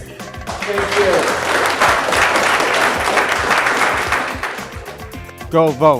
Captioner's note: applause